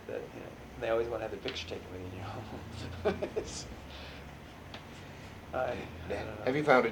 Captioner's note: laughs